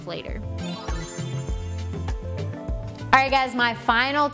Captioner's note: gentle music; transition sound